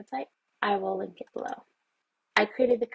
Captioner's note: mouse clicks